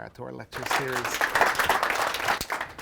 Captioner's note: clapping